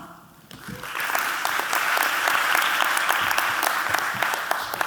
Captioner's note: audience clapping